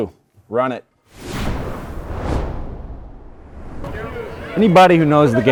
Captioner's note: logo whooshing